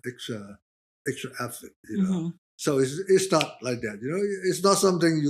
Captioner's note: snaps fingers